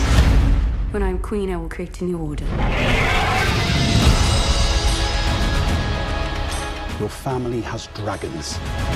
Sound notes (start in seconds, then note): 2.6 dragon roars; 3.8 music swells